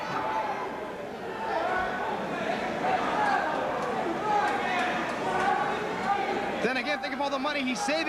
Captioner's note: crowd chatter